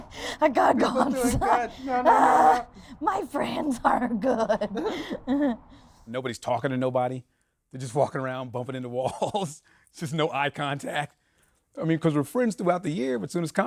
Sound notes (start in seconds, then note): 9.7 laughs